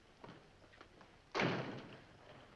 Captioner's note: door closes